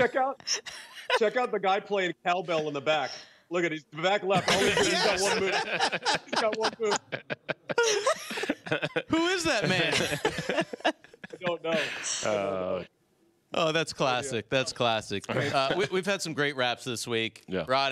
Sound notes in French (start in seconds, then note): 10.7 laughter